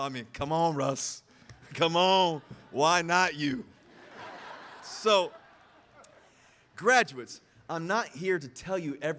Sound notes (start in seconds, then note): 3.8 audience laughing